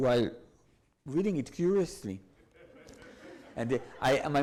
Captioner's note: audience laughs